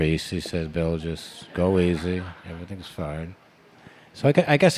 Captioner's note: laughter in the background